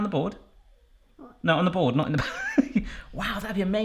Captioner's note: laughs